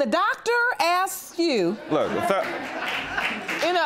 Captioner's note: applause